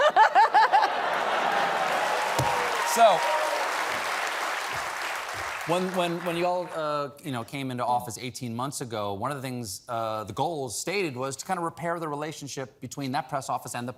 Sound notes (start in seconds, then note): 4.8 applause